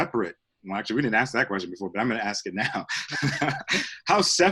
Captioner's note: laughs